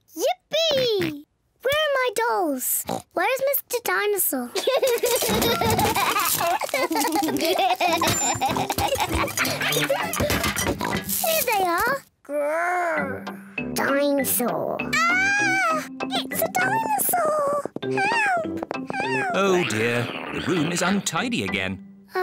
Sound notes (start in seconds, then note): 0.8 oinks; 2.8 oinks; 4.5 laughs; 10.5 oinks; 14.9 in squeaky voice